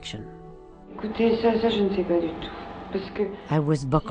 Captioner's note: speaking foreign language